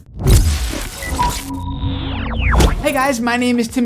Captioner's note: whooshing